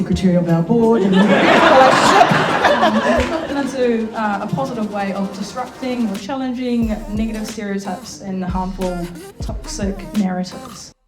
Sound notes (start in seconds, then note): 2.5 audience laughing; 10.3 light music